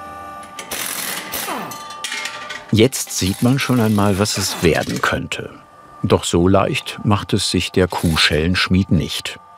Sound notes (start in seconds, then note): 0.6 loud rattling